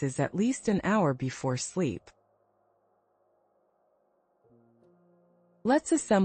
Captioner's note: pause